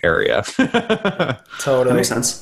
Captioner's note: laughs